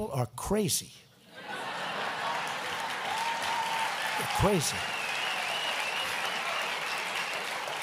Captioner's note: laughter and applause